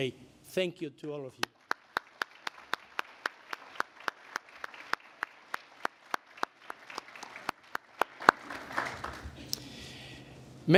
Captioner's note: applause